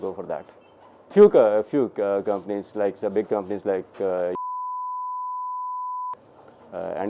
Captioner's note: beep